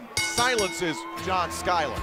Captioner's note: bell ringing